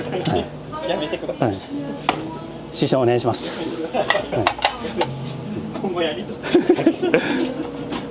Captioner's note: laughs